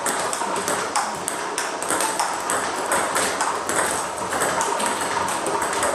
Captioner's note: balls ping pong hitting continues